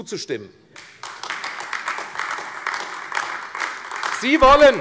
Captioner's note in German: Beifall AfD